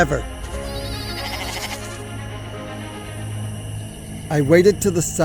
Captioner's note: goat bleats